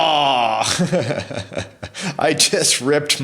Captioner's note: laughing